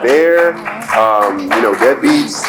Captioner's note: applauds